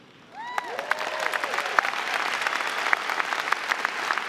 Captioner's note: audience clapping